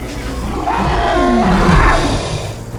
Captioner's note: roars; grunting